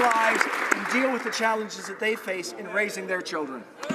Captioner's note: applause